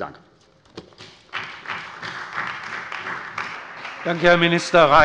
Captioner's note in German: Beifall bei der CDU und dem BÜNDNIS 90/DIE GRÜNEN